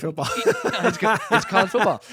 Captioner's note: laughing